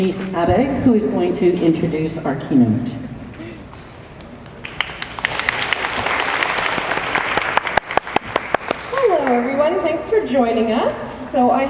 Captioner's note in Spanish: Aplausos